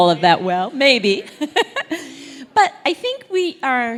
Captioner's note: laugh